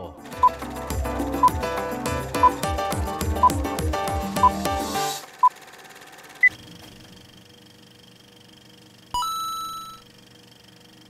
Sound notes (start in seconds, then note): 0.3 beeping; 6.6 coin sound; 6.6 projector whirring